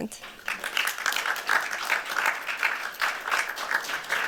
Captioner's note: applause